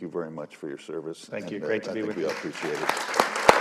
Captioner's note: applause